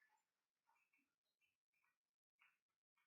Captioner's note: applauding